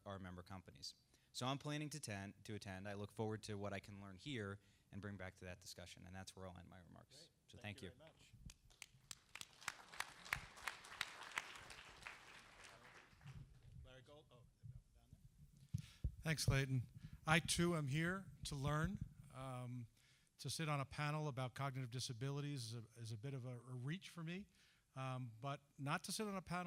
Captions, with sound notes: OUR MEMBER COMPANIES, SO I'M PLANNING TO ATTEND AND LOOK FORWARD TO WHAT I CAN LEARN HERE AND BRING BACK TO THAT DISCUSSION. THAT'S ALL MY REMARKS, THANK YOU (APPLAUSE). » THANKS, CLAYTON. I, TOO, AM HERE TO LEARN. TO SIT ON A PANEL ABOUT COGNITIVE DISABILITIES IS A REACH FOR ME, BUT NOT TO SIT ON A